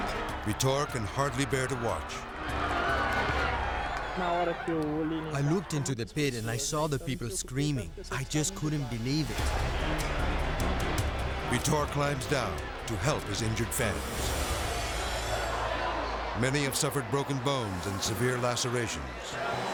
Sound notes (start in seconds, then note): 3.7 speaking Portuguese; 9.4 suspenseful music